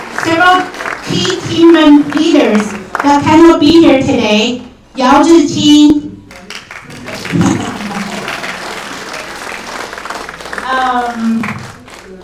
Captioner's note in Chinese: 掌声; 鼓掌